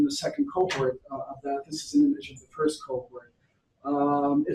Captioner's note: audio skips